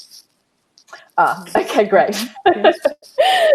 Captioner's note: chuckles